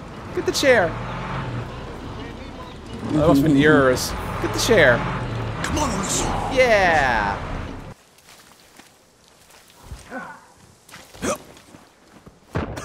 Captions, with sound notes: Get the chair! Get the chair! (humming chuckles) That must've been yours. (humming chuckles) That must've been yours. Get the chair. Get the chair. Yeah! Yeah!